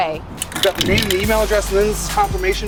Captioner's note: paint mixer rattling